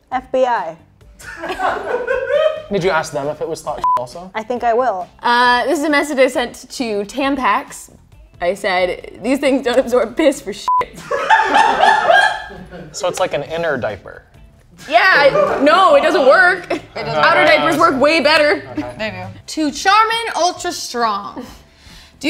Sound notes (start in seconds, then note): 1.2 all laughing; 3.8 beep; 10.6 beep; 10.8 all laughing